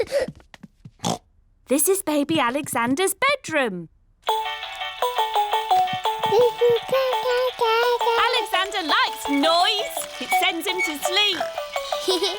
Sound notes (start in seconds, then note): 1.0 oinks; 4.3 mobile playing loud music; 6.3 cooing; 11.7 giggles